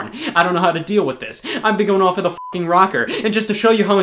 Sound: beeping

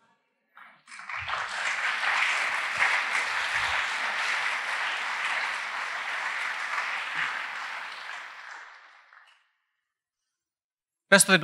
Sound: applause

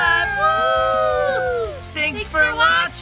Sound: cheering

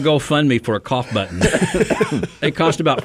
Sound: co-hosts laugh

